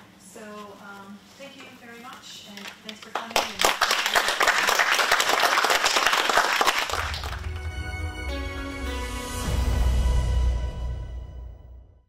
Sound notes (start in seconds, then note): 3.0 applause